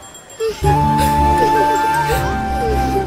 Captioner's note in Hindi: रोना